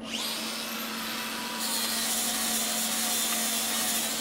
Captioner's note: grinder whirring